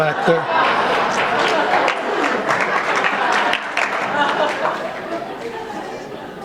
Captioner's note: laughter